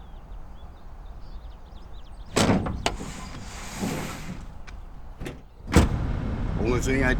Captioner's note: birds chirping; crates rumbling